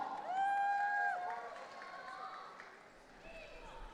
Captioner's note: audience cheering